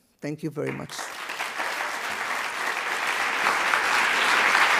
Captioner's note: audience applause